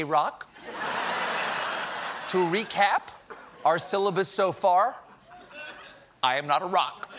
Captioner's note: laughter